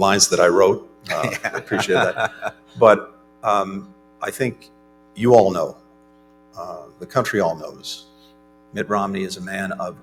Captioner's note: laughter